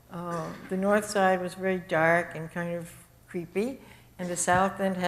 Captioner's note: audience cough